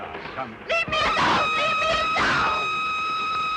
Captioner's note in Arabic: صافرة القطار